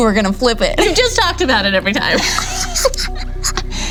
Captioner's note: laughing